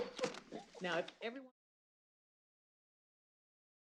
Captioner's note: bang